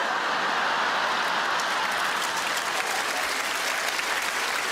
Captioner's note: audience laughs